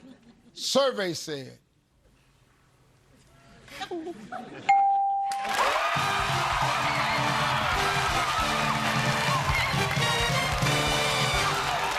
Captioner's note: family cheering